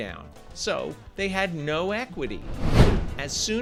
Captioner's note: text whooshes